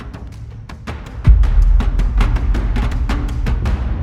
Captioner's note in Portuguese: impacto